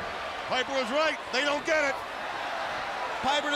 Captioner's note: crowd cheering